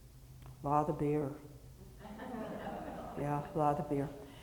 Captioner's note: audience chuckling